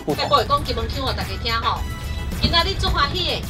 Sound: in Kinmen accent

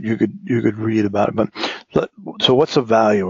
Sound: cough

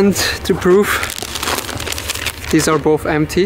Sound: air sickness bags crinkle

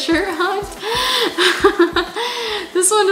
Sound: laughs

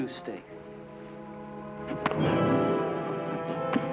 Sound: loud thumping; suspenseful music

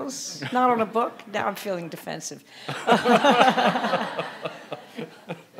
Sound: audience laughing

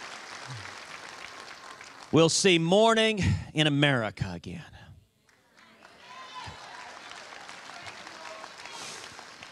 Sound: cheers and applause

